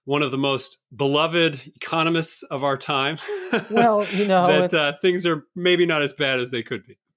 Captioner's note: chuckle